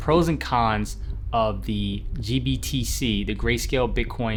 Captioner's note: whooshing